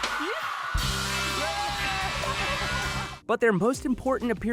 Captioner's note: laughs